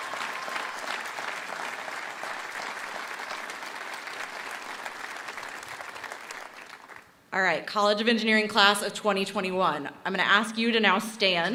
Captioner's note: applause